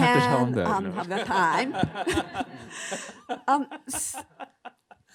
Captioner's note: all laughing